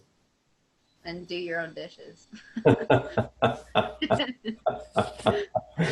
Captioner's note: laughter